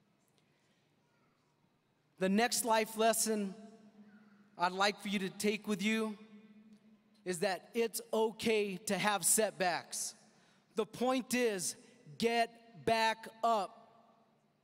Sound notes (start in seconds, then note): none